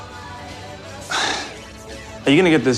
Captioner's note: sighs